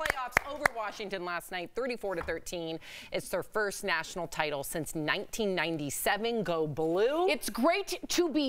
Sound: applause

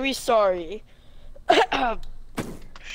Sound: coughs

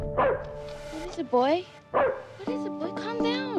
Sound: barking; barking

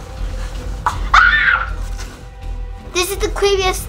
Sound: screams

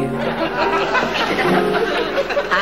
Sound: audience laughing

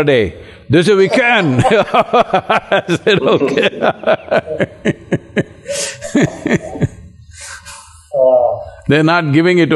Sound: Sadhguru and Alexander Ludwig laugh

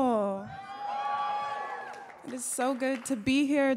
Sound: audience cheering

